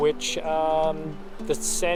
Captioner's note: water gurgles